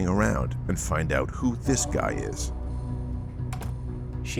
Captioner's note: door clunks